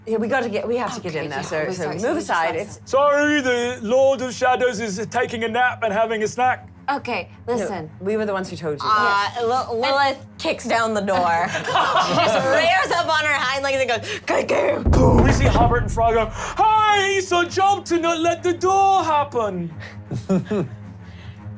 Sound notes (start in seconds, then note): 14.8 boom; 17.7 shouts